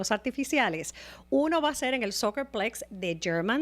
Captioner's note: Hablando ingl\s